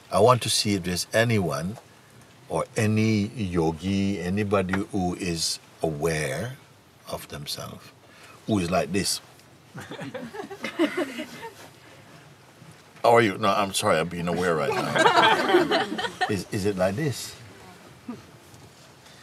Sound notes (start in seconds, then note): 9.8 Lachen